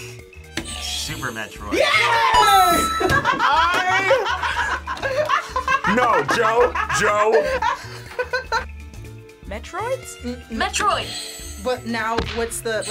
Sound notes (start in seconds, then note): 2.4 buzzer rings; 2.7 group laughs; 11.0 buzzer rings